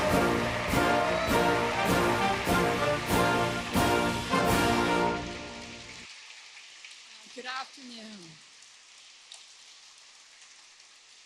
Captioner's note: applause